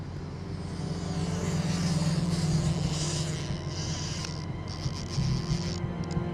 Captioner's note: suspenseful music; fishing reel ticking